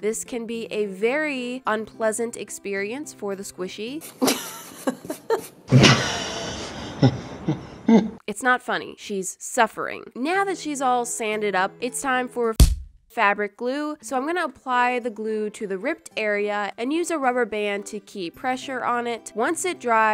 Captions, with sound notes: This can be a very unpleasant experience for the squishy. *Normal laugh* *Evil laugh* It's not funny. She's suffering. Now that she's all sanded up, it's time for, *SMACK* fabric glue. So I'm gonna apply the glue to the ripped area, and use a rubber band to keep pressure on it. Once it dries,